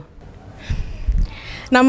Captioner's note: inhale